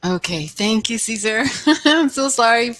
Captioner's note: laughs